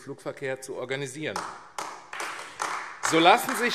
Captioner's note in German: Beifall AfD